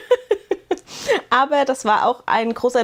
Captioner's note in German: gelächter